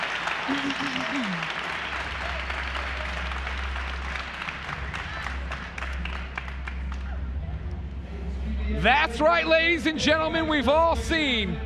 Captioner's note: cheers and applause